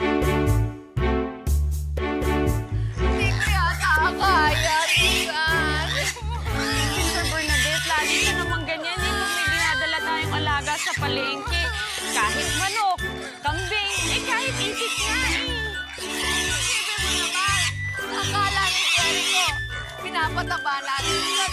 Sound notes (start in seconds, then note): 6.1 sobbing